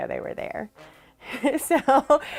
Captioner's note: laughs